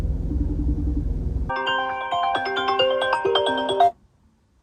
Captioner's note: phone ringing